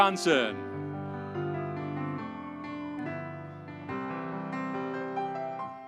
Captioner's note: audience cheering